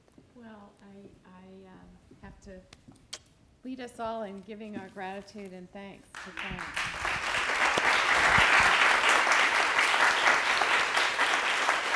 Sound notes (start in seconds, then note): 6.1 applause